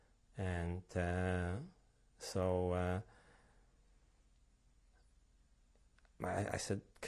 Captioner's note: pauses for 3 seconds